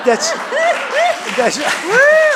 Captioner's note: laughter